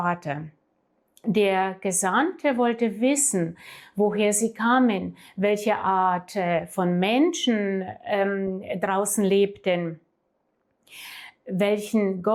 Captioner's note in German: japst